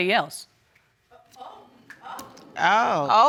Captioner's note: exclaiming